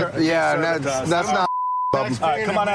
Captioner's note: chatter